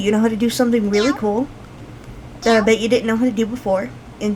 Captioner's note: cat meows as I hit "Pet"; cat meows as I hit "Pet"